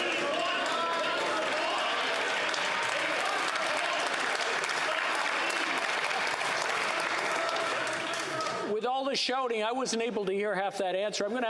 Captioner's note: yelling